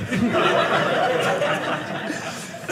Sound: audience laughing

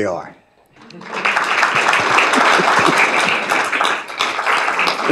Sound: audience applauding

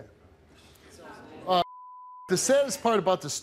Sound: audience murmurs; beep

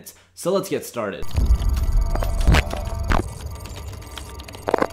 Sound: crackling

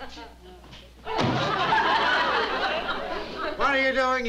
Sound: slam

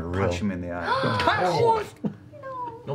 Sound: cry of pain

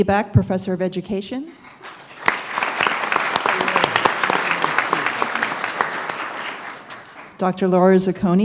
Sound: applause

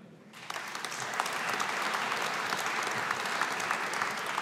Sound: audience applauding

